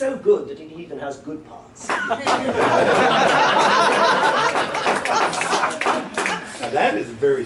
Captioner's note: laughter